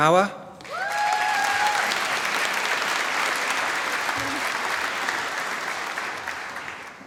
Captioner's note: applause